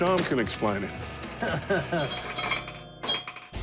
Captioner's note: chuckle